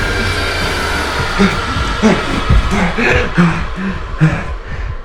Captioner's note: heavy breathing; heartbeat thudding